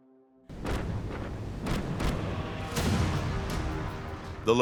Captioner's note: cannons exploding